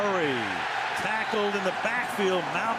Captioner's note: crowd cheering